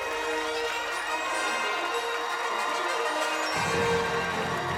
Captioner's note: fanfare playing; cheers and applause